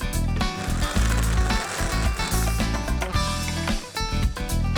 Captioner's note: winding sound